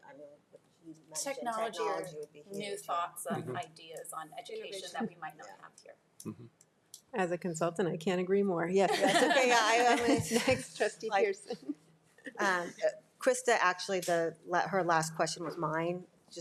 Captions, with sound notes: I mean, you mentioned technology would be huge. - Technology, new thoughts, and ideas on education that we might not have here. - As a consultant, I can't agree more. (board laughing) - Krista, actually, her last question was mine.